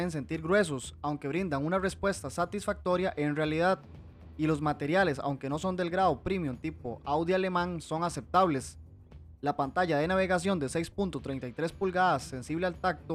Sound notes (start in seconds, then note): 8.2 German